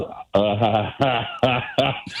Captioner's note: laughing